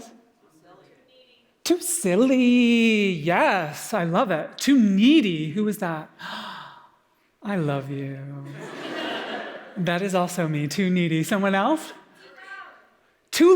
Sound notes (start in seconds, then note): 6.2 gasps; 8.5 audience Laughter